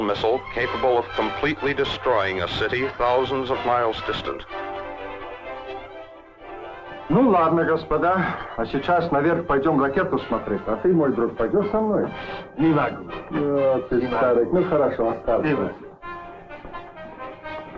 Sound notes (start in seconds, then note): 4.6 dramatic orchestral music; 6.6 military leaders speaking in Russian; 9.3 dramatic orchestral music